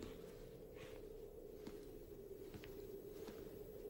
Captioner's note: wind howls